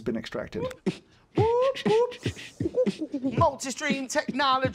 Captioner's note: beatboxing